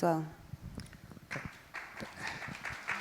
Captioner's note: crowd applauds